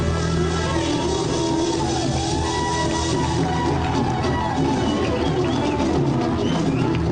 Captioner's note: audience applause and cheers